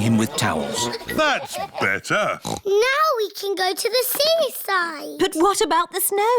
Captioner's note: oinks